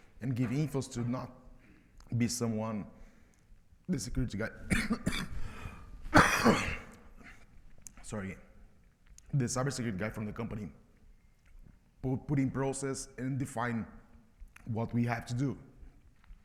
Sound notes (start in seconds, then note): 6.1 presenter coughs